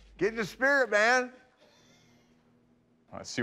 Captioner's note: laughs